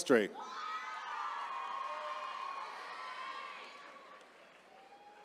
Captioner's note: attendees cheering